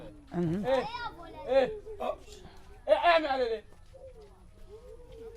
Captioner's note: children making noise